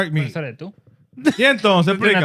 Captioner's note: speaking In Foreign Language